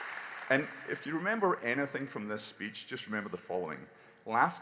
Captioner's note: applause